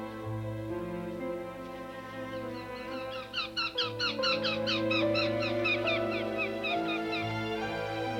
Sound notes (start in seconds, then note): 2.3 bird squawking